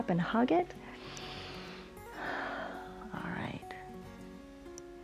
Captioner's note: inhales and exhales